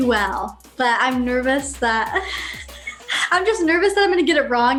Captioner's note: chuckles